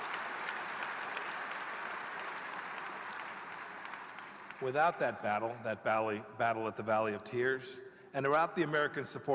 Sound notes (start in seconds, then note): 0.0 applause